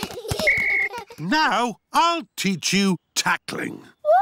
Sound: blows whistle

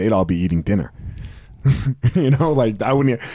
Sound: chuckling

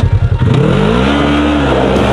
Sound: engine roars; upbeat music

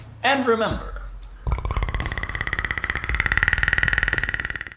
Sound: Predator chittering

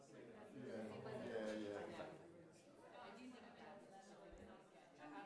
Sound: audience murmurs

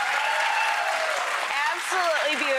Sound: applause

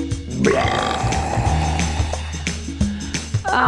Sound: burrrp!

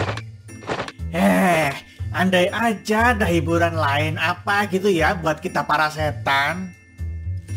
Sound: sigh

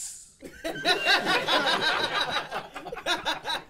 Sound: laughing

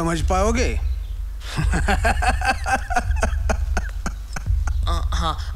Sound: laughs

